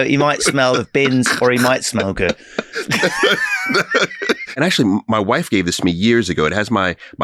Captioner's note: laughing